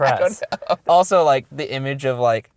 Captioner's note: voiceover